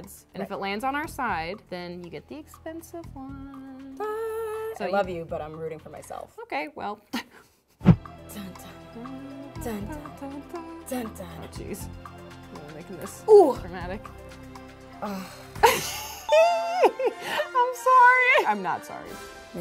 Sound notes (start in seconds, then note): 8.7 girls humming; 15.6 laughs